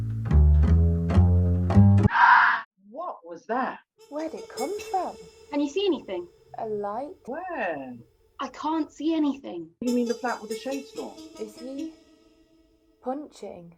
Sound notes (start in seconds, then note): 2.2 woman's scream